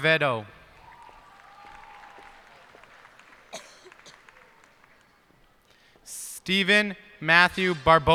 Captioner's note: cheers and applause